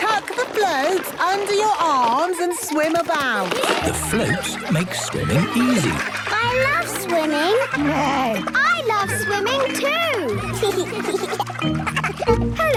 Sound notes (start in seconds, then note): 8.1 neighs; 10.9 giggles